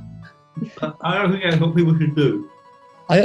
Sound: with mouth full

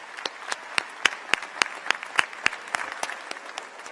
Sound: applause

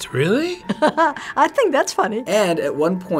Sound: laughing

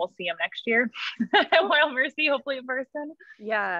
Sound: laughs

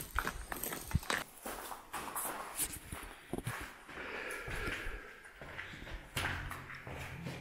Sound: tumbles crunching; footsteps on metal

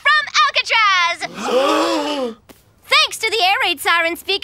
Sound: gasping

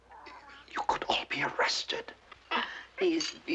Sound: baby cooing

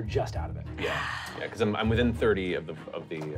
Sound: sighs

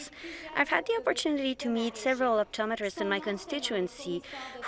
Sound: speaking French

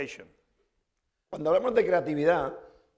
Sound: speaking spanish

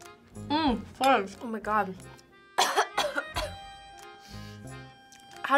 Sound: coughs

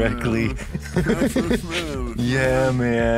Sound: laughs

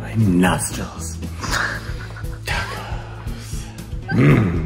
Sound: woman laughing

